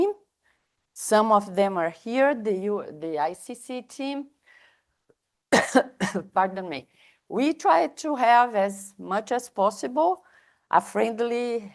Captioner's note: coughs